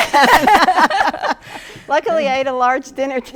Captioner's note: laughs